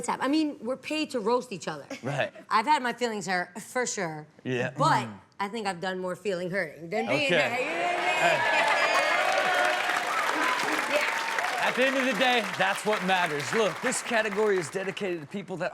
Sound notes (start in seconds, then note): 2.4 Chanel chuckles; 8.9 audience cheers; 8.9 women laugh